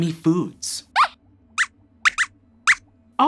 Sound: squeaks squeaks

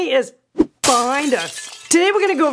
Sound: glass smashing

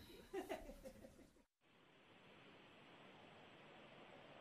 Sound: laughs

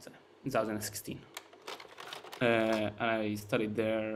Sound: slide projector clicks

